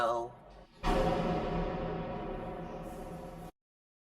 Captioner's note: gate closing